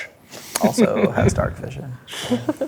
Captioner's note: laughing